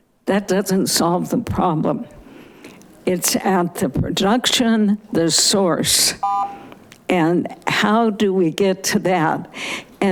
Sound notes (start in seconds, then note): 6.2 buzzer chiming